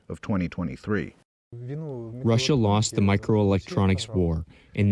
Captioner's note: through translator